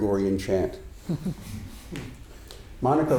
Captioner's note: audience chuckling